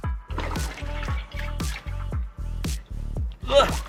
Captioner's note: laughs